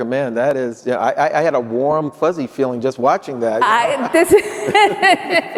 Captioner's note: laughing; laughs